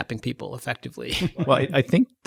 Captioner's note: mild laughter